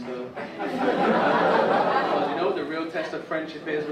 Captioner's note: audience laugh